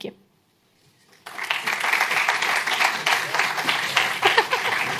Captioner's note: applause